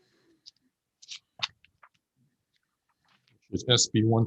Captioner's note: papers shuffle